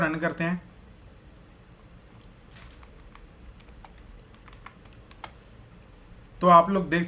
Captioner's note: typing